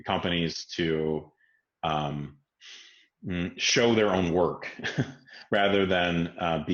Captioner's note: laughs